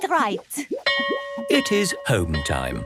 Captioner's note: bell rings